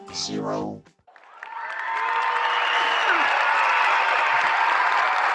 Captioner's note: crowd applauds